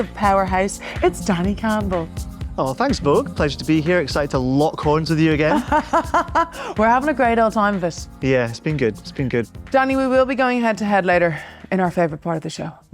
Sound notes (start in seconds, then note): 5.5 laughing